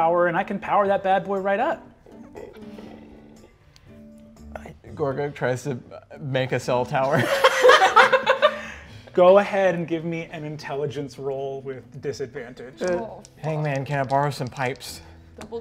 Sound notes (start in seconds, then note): 2.3 chuckles softly; 7.1 players laughing